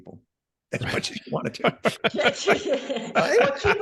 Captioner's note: all laughing